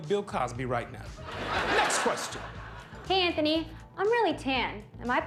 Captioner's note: laughter